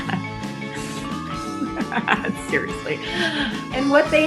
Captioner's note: laughs